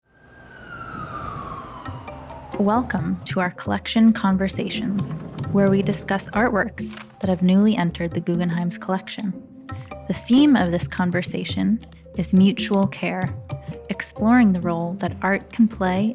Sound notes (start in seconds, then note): 0.2 traffic sounds